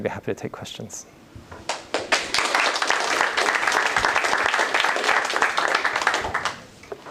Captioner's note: applause